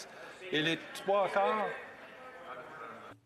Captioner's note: speaking French